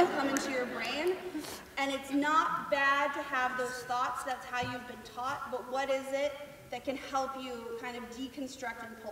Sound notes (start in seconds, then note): 0.0 laughter